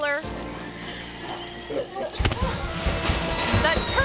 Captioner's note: firecracker hisses and pops